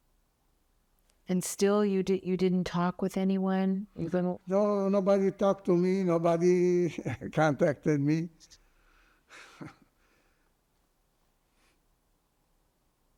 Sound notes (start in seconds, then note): 4.5 laughing; 8.5 pauses 10 seconds